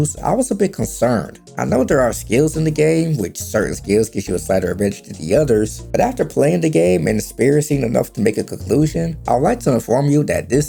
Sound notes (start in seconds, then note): none